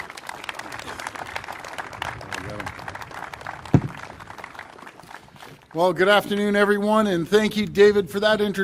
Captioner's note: applause